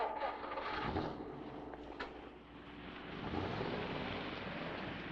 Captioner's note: car engine rumbling